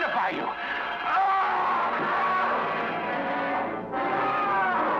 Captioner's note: Professor screaming